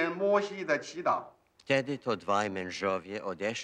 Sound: man speaking polish

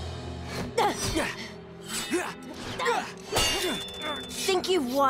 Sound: grunting

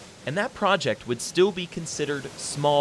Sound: voiceover

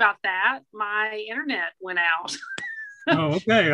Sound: laughs

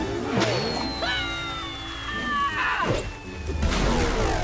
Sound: screams; splash

